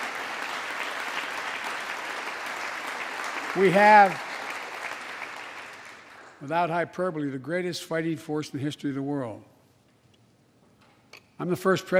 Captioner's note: applause